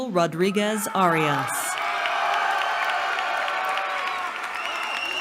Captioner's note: cheering